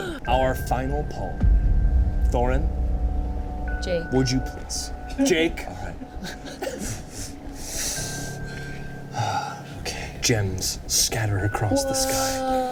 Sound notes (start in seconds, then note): 9.1 sighs